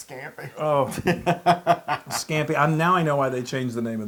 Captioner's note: laugh